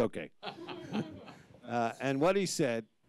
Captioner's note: audience laughs